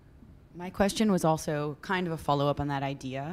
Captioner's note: voiceover